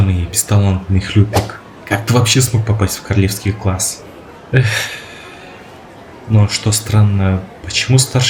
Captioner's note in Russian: вздыхает